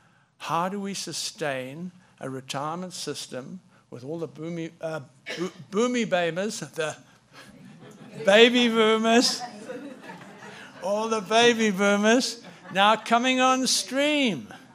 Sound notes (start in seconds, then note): 9.3 audience laughing